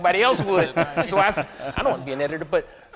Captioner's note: laughter